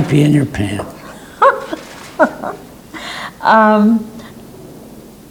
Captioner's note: interviewer laughs